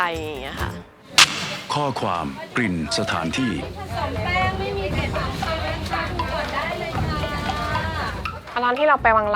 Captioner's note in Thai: เสียงแม่ค้าในตลาด